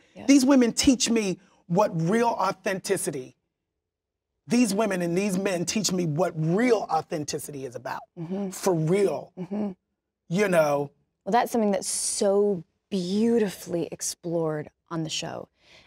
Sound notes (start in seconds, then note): none